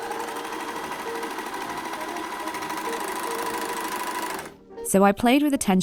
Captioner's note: overlocker whirs noisily